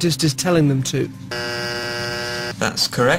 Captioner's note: buzzer